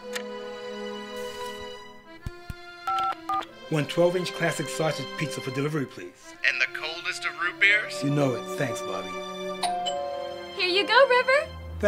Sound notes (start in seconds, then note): 0.2 clock ticks; 2.2 finger tapping; 2.8 telephone beeping; 9.6 doorbell chimes